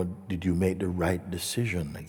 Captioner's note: none